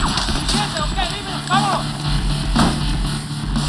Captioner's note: shouting in Spanish